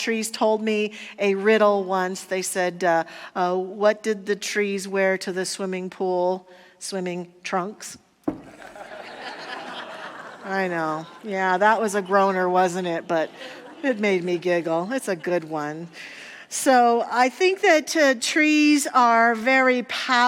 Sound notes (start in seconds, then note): 8.5 audience laughter